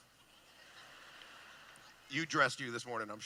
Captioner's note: laughing